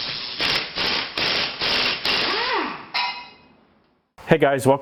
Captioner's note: tool drilling